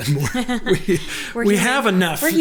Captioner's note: laughs